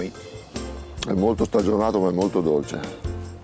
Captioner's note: speaks italian